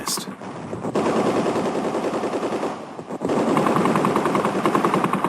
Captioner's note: artillery firing